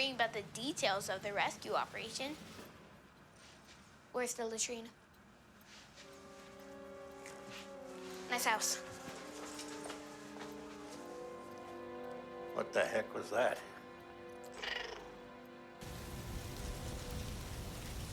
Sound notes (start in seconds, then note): 14.6 Blinky meowing